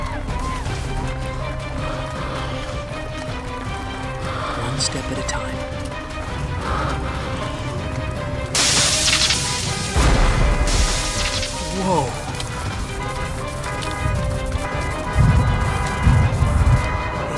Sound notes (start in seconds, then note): 8.5 electric sparking and bursting amid traffic horns; 12.5 fearful music with traffic horns